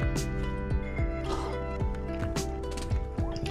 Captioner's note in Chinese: 吸啜麵條